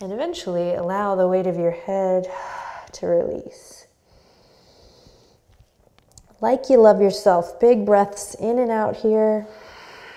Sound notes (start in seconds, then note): 4.0 deep breath